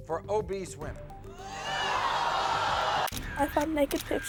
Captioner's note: audience gasping